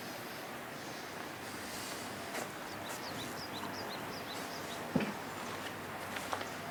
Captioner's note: sound of birds